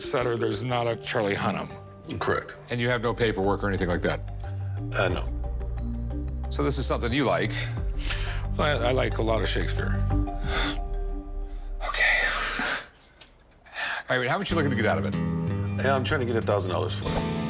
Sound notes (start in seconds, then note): 11.6 whispers